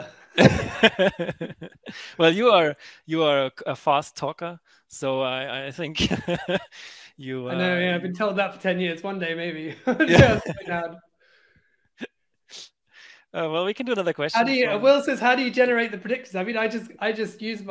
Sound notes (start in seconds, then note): 0.3 both laughing; 5.9 laughing; 9.7 both laughing